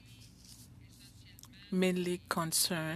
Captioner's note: speaking French